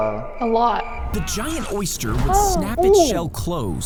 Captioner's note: both exclaiming